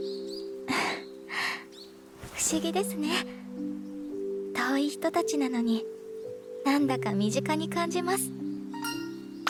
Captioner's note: chuckle